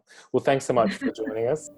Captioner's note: laughing